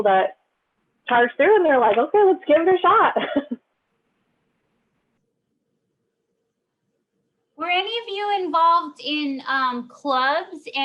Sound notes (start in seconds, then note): 3.2 laughs